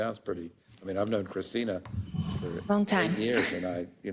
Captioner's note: laugh